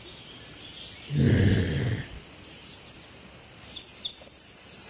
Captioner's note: woman groaning